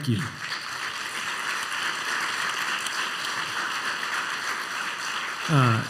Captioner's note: applause